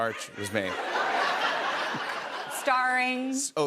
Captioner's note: laughter